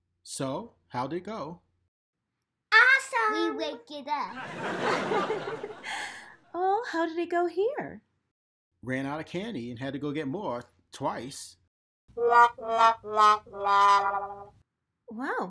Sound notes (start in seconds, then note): 4.3 audience laughs; 6.1 laughs; 12.2 defeated music